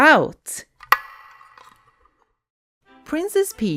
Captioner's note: echoing tin can click